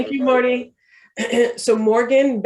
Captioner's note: clears throat